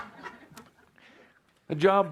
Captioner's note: laughter